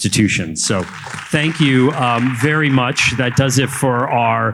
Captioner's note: audience applauding